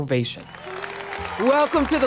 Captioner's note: audience cheering